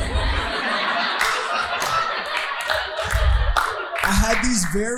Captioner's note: audience laughing